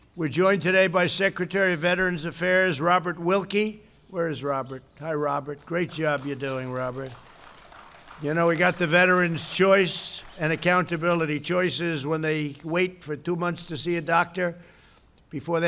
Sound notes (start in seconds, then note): 5.4 applause